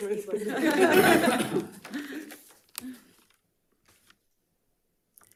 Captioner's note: members laughing